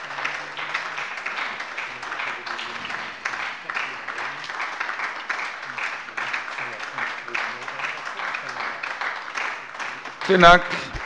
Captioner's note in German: Anhaltender lebhafter Beifall bei der LINKEN und der SPD